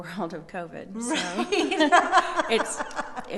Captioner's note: laughing